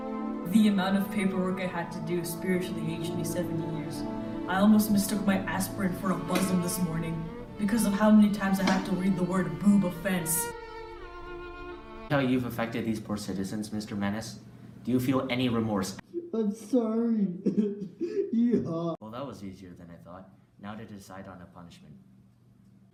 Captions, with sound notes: The amount of paperwork I had to do spiritually aged me 70 years. I almost mistook my aspirin for a bozom this morning because of how many times I had to read the word 'boob offense' See how you've affected these poor citizens Mr. Menance? Do you feel any remorse? (sobs) I'M SORRY. YEEHAW Well, that was easier than I thought. Now to decide on a proper punishment.